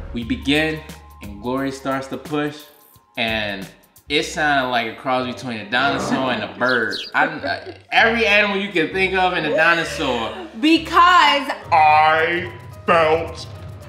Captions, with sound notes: We begin and Glory starts to push and it sounded like a cross between a dinosaur- (dinosaur growling) And a bird. (bird chirping) Every animal you can think of and a dinosaur - Because I felt pain!